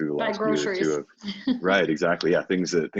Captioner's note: laughs